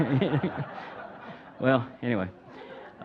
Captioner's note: audience laughing